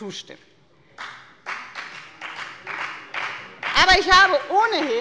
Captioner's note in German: Beifall bei der FDP